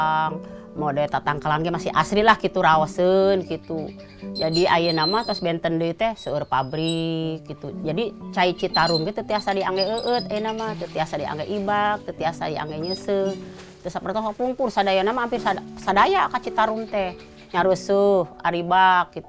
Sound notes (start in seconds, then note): 4.2 sound of drawing water from a well